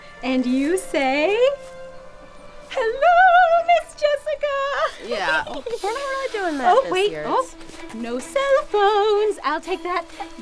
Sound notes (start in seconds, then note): 4.8 Jessica giggles